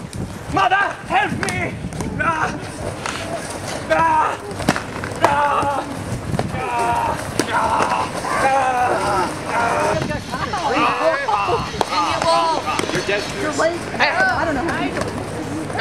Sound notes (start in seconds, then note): 1.8 Dene-saur's battle cries become more desperate